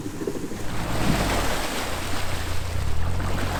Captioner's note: rushing of water